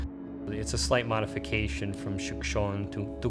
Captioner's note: speaks foreign language